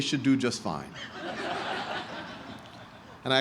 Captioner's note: laughter